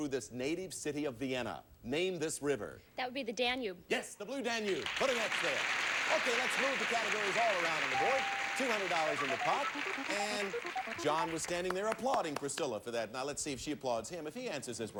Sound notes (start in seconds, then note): 4.8 audience applauding